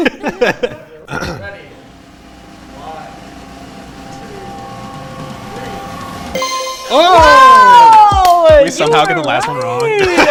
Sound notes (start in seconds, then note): 0.0 laughing; 1.1 drum roll; 6.3 ding